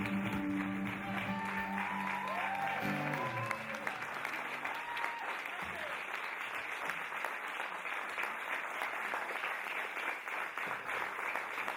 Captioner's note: applause and cheering